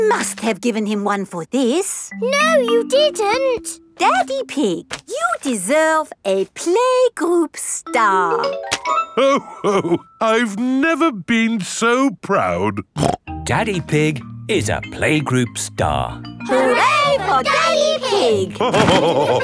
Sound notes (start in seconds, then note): 12.9 snorts; 18.5 all laughing